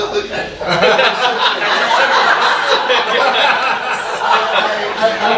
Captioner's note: audience laughing